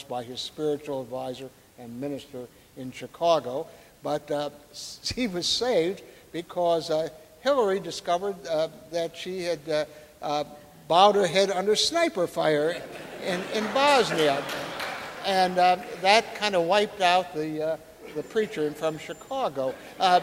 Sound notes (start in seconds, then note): 14.2 audience laughing and applauding; 20.0 audience laughing